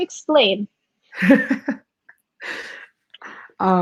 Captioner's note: laughing